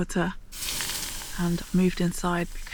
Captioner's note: hiss